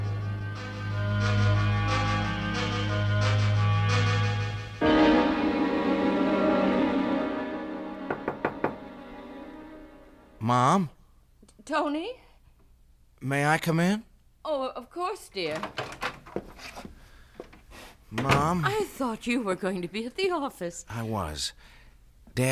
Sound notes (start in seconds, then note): 8.0 knock on door; 18.1 door opens